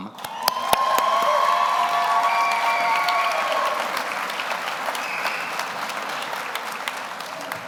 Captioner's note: audience applauds; audience cheers